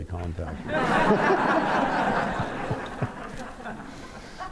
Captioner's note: laughter